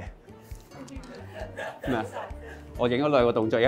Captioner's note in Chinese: 不斷傳出恥笑聲